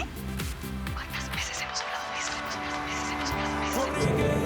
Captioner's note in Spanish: Se repite como un eco